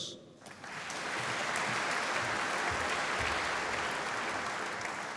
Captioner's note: applause